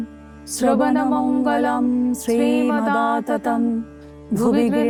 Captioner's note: chanting